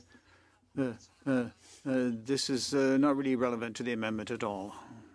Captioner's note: speaking French